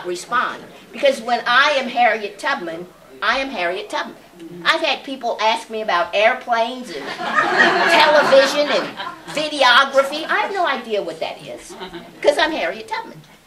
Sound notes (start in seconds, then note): 6.9 laughter